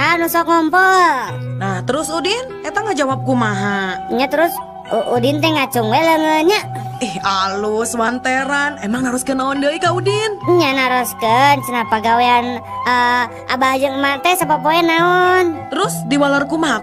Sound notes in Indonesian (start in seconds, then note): none